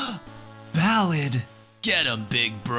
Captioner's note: gasp